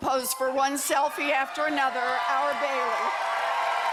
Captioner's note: applause